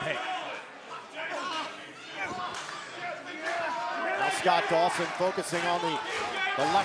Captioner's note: crowd chatter